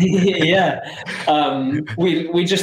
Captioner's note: laughing